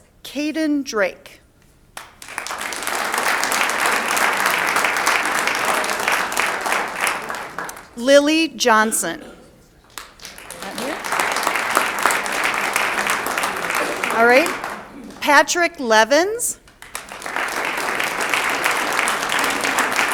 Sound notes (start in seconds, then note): 2.0 audience applauds; 9.7 audience applauds